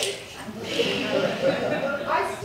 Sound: audience Laughter

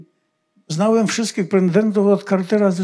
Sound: foreign language

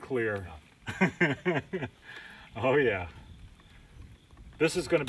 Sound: laughs

